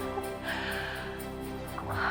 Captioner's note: laughing